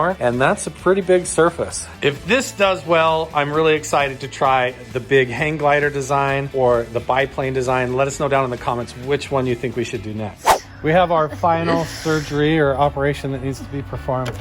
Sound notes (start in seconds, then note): 10.4 swooshing